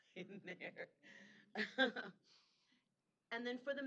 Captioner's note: chuckling